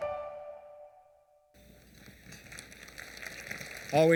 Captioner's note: applause